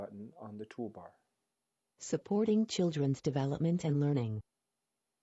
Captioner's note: synthesized Voice